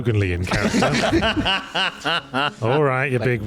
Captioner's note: laughing